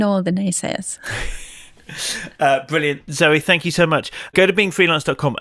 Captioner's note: laughs